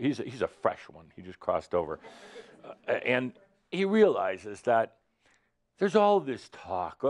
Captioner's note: some chuckles